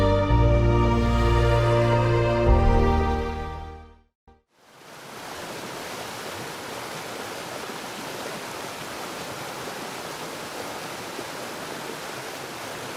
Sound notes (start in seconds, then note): 4.9 water sloshing